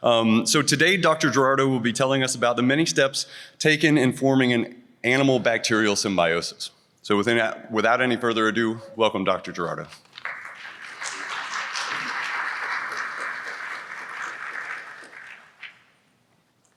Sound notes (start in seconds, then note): 10.0 applause